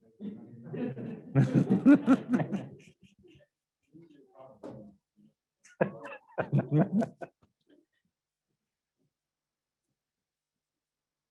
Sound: laughter

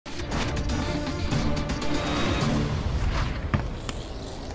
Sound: upbeat music; air whooshing

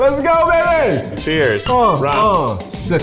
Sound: glasses clinking

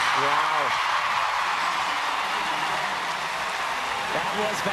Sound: audience cheering

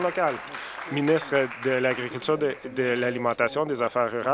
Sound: applause

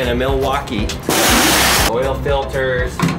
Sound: box clanking

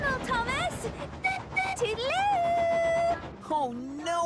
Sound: Rebecca Whistles

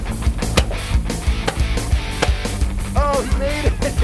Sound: popping sounds

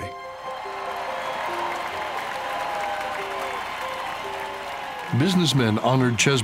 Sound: crowd cheering

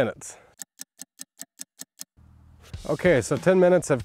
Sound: clock ticking

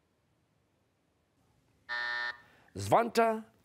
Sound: buzzer

